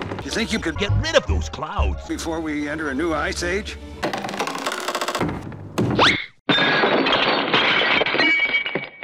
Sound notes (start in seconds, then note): 6.5 crash; 6.8 clink clatter